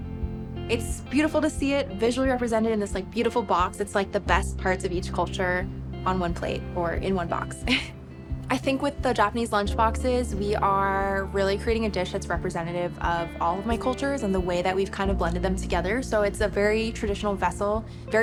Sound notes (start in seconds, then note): 7.6 laughs